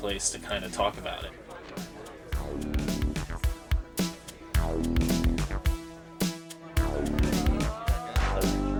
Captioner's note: indistinct chatter